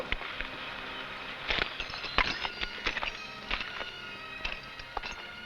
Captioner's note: spurs rattling